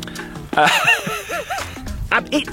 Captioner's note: laughs